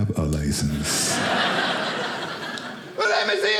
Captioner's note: audience laughing